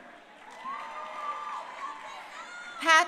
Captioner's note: crowd cheering